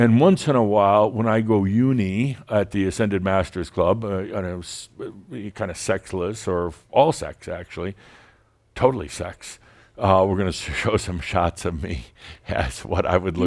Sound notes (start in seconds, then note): none